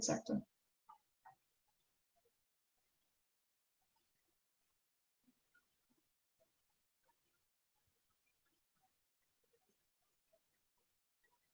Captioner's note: silence